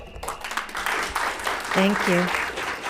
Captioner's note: applauds